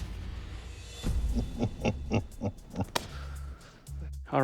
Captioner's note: laughter